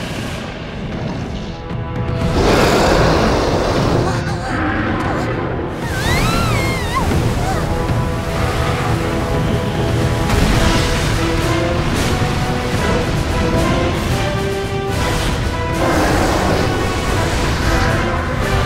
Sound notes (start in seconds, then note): 2.2 roaring loudly; 2.3 gasps; 4.3 roars; 5.7 screams; 10.2 crashes